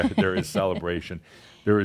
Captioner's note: she chuckles